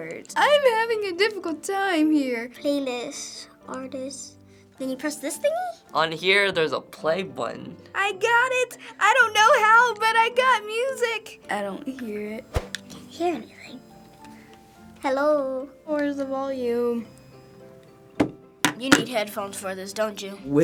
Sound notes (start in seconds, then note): 18.6 iPod clatters